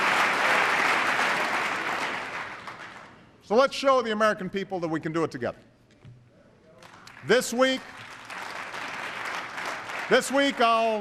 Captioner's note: applause